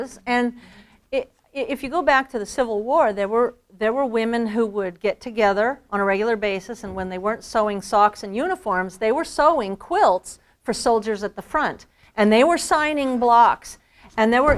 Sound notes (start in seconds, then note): none